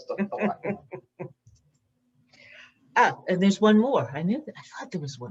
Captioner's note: laughs